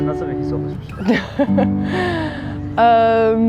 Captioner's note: laughs